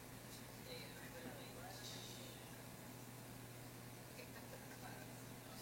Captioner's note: audience murmuring